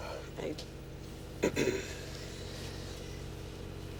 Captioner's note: clears throat